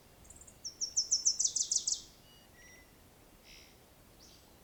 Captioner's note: birds chirping